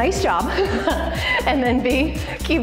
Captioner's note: laughing